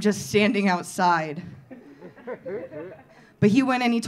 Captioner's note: audience laughing